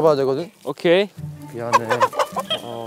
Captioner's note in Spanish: Flap!